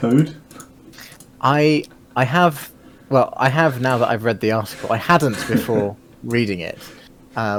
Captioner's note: chuckling